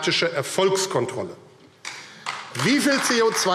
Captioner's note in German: Beifall AfD